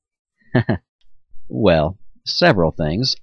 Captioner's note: chuckles